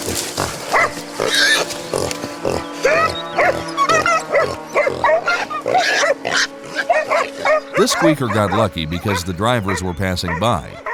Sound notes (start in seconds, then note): 1.1 dogs barking; 1.1 boar squealing